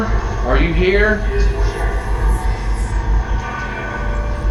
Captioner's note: ghostly voice